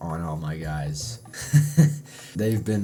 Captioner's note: chuckle